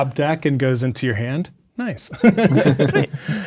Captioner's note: chuckles